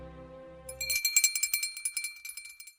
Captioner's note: bell rings